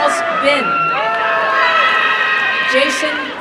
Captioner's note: applause and cheering